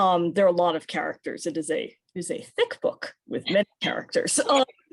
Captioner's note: laughs